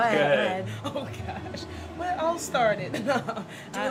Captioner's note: laughter